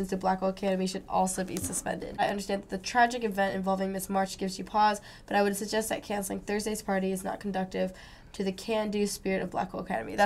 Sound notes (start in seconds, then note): none